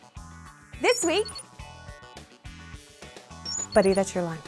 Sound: beep sounds

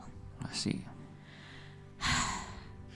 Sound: sighs

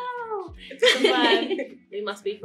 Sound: laughs

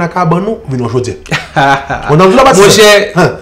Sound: chuckles

